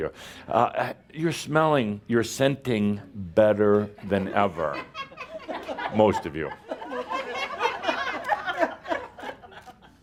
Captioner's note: laughter